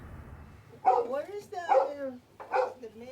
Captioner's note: dog barking